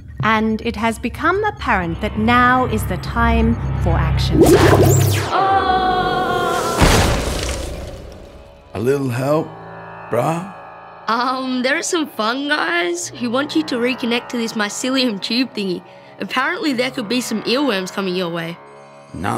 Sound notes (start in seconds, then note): 4.4 bubbling; 5.2 screaming